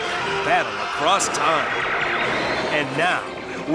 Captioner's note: lasers zapping